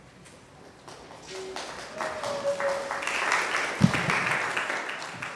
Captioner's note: congregation clapping